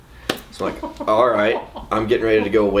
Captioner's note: laughs loudly